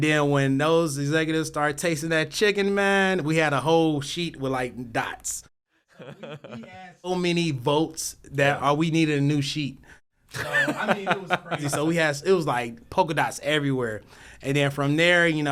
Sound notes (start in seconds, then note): 10.3 laugh